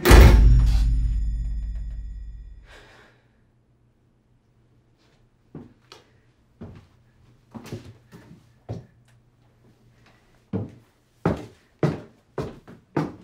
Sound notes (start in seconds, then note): 0.0 loud bang; 2.7 Carlos sighs; 6.1 thumping footsteps